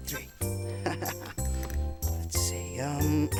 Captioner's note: giggling